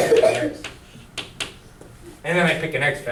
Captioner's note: coughing